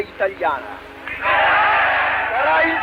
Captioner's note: crowd cheering